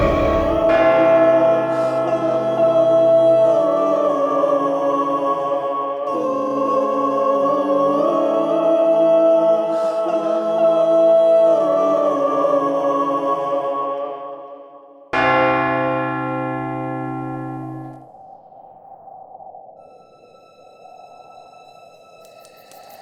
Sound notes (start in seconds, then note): 0.1 eerie choir singing; 15.1 bell ringing; 15.1 wind howling; 20.6 tense music; 22.8 flames crackling